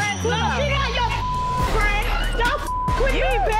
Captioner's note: beep